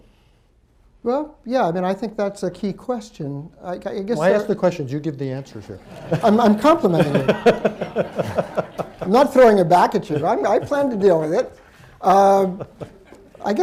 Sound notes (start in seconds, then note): 5.7 laughs; 5.8 laughter